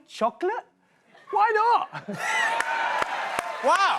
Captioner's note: cheers and applause